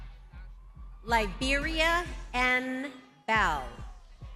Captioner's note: lively music; crowd cheering